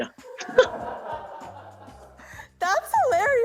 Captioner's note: laughter